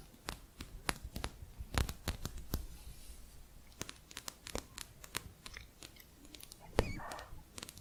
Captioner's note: quick tapping